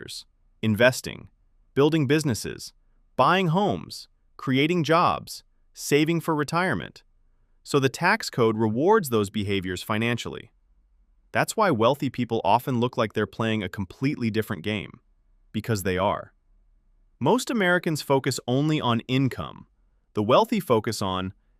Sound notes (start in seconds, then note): 10.9 thoughtful